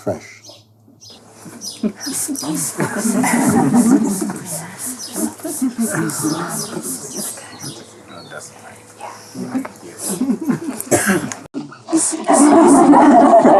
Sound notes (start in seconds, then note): 3.6 laughter and words of gratitude